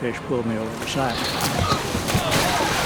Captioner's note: splashes; fishermen yell; fish splashes